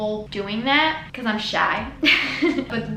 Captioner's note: giggles